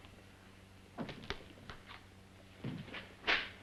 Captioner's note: door opens; glove smacks